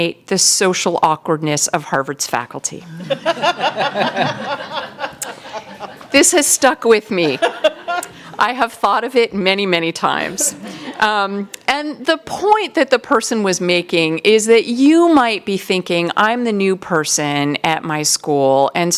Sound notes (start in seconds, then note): 2.8 laughter